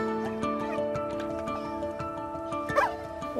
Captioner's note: dog barks